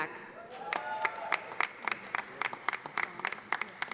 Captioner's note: audience applauding